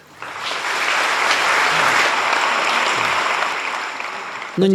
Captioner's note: audience Claps